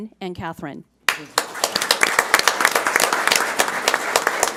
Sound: audience applauds

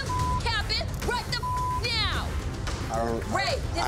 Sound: beep

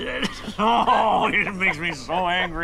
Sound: laughing

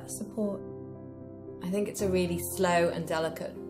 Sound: voiceover

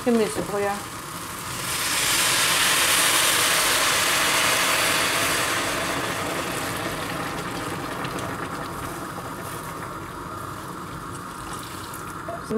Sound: kitchen noises: hissing and rustling, bubbling

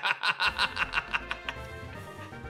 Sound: laughs

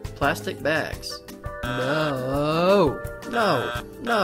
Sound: buzzes

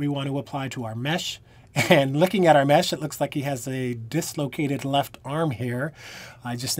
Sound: laughter

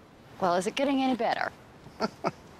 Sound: chuckles

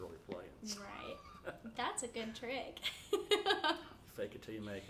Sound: laughing

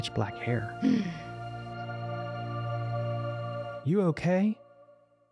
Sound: gasps

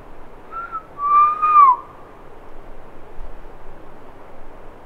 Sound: whistling

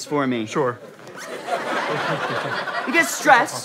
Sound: audience laughter

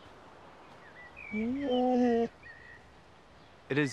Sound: Elvar whimpers

